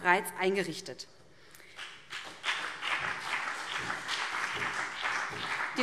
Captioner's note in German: Beifall